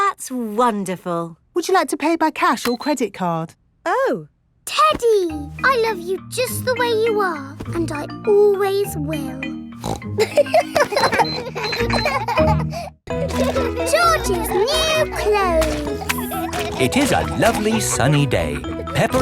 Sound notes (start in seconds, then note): 9.8 snorts; 10.0 kids laughing